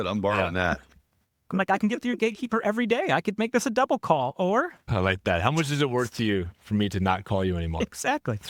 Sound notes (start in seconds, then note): 0.1 laughing